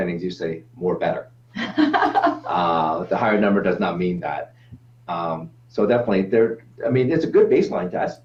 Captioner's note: laughs